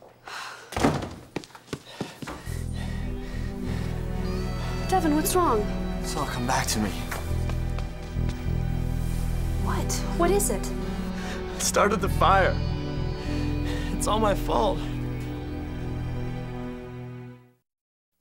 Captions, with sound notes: -[sighs] -[door closes] [panting] -Devon, what's wrong? -It's all come back to me. What? What is it? I started the fire. It's all my fault.